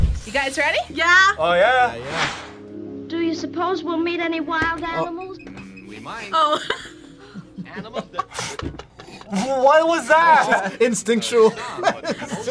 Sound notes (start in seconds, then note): 5.4 laughs; 7.6 both laugh; 11.1 laughs